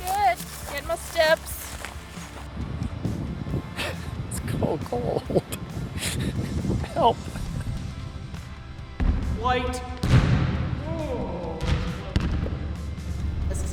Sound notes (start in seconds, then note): 2.2 wind gusts; 10.1 ball bounces loudly